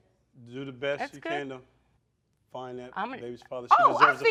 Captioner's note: both stuttering